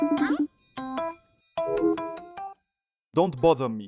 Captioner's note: phone ringing; call declined